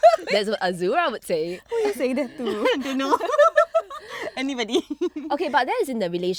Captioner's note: laughs